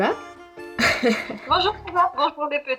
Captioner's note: laughs